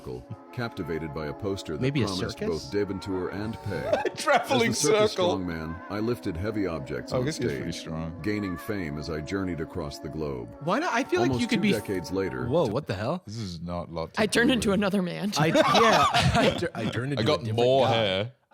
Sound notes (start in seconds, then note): 3.5 laughing